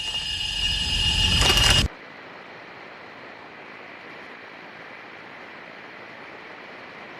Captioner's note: radio static